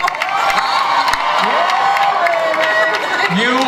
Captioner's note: audience cheers louder